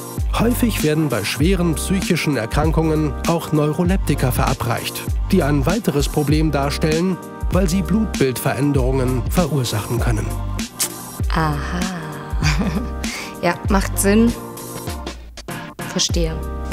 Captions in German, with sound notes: Häufig werden bei schweren psychischen Erkrankungen auch Neuroleptika verabreicht, die ein weiteres Problem darstellen, weil sie Blutbildveränderungen verursachen können. Aha! (lacht) Ja! Macht sinn, verstehe.